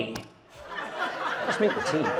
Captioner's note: audience laughs